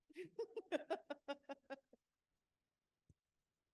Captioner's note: laughs